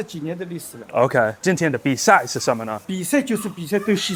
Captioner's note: Mandarin